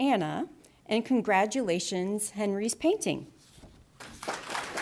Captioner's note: applause